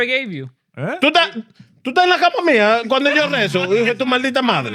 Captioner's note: speaking In Foreign Language